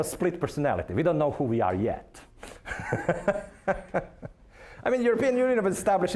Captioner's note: laughing